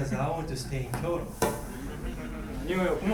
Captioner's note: bang; speaking in foreign language